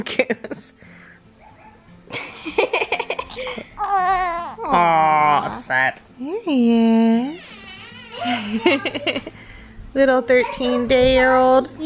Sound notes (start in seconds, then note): 2.1 laughing; 3.3 baby crying; 8.1 laughing